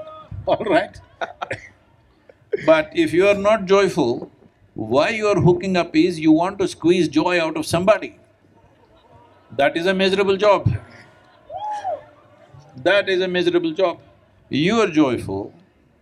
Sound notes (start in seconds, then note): 1.0 both laugh; 11.8 cheering